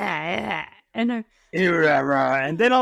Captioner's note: beast noises